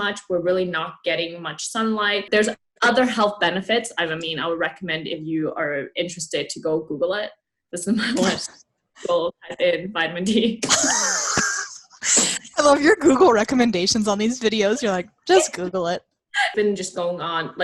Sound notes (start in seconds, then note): 10.2 laughter